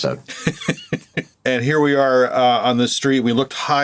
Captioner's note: laughs